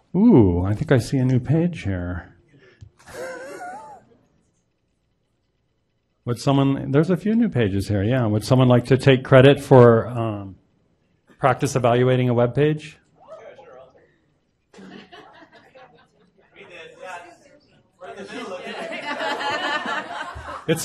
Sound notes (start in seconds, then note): 3.0 laughs; 14.7 audience talking; 18.0 laughing